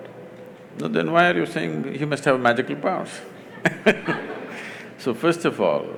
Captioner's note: laughter